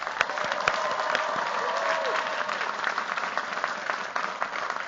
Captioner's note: cheers, applause